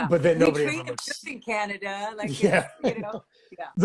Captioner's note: laughs